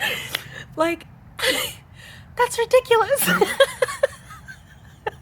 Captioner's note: laugh